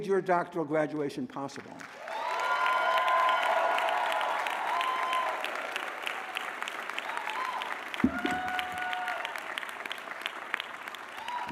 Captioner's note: applause